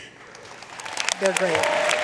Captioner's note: audience applauding